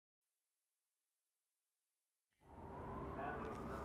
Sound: wind blowing

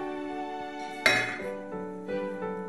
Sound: glass clinks

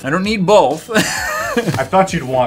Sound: wheeze

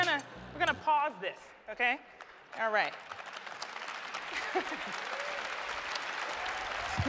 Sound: applause

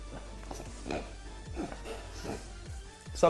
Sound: throat noises

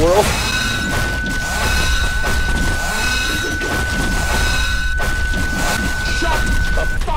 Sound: beeeeeeeeeeeeeeeeeeeep

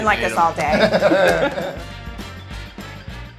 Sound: laughter

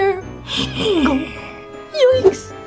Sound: laughs

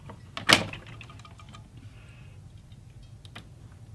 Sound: clicking

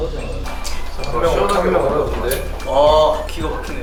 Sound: drinking

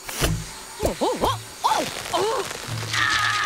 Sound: groaning

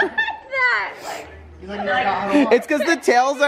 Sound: laughs

